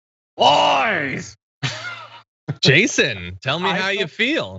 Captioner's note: laugh